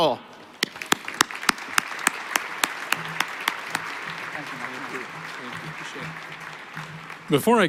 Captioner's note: applause